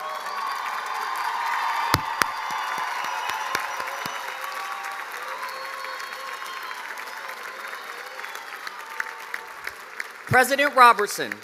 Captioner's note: cheers and applause